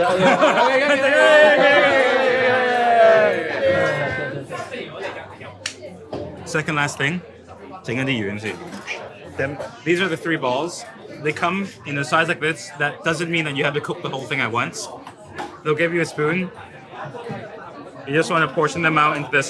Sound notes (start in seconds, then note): 0.0 group laughing and chattering; 5.6 claps; 6.9 speaks in foreign language